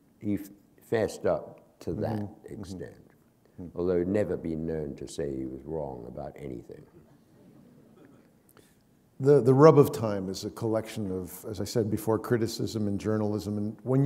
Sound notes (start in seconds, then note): 7.0 laughter